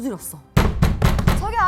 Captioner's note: thud, thud, thud